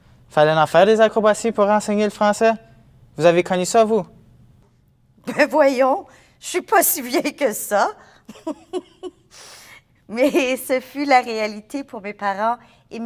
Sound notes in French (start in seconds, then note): 8.3 Rire